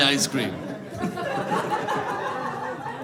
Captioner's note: audience laughing